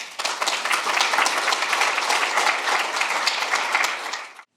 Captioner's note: audience applauds